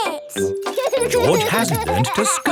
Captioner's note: george laughing